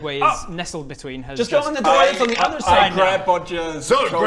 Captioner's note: krrrkkkk